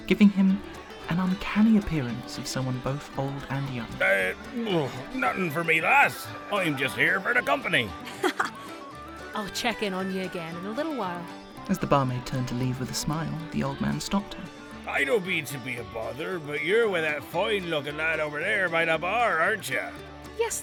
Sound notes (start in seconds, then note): 4.9 drunkenly; 8.8 chuckles